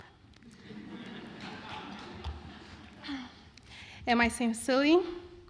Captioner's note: laughter